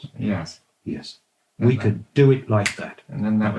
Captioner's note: snaps fingers